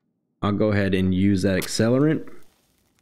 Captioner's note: match Strike